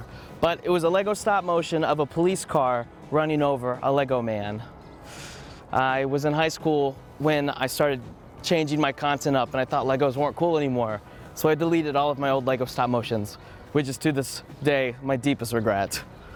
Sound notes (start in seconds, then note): 5.0 sharp inhale